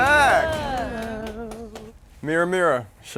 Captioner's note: light clapping